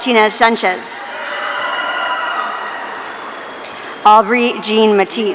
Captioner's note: audience cheering